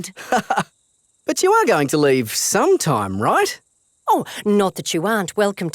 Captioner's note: laughs